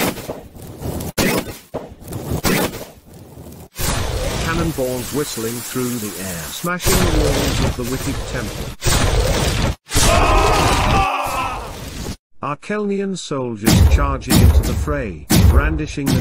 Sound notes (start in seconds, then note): 0.1 explosions; 10.0 explosions / Shouting